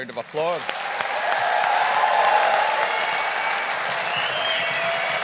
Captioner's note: audience applauding